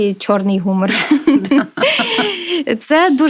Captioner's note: laughter